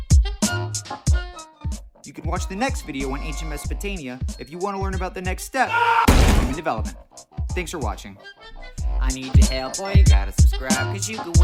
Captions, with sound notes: You can watch the next video on ancient Mesopotamia, if you want to learn about the next step [screaming] [crash] ...in human development. Thanks for watching. I need ya help, Boy ya gotta subscribe,